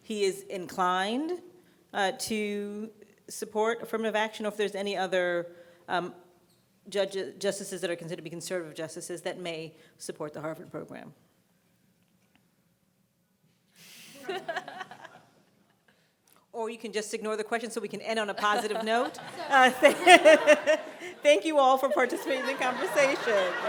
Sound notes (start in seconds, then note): 14.1 everyone chuckling; 18.4 laughing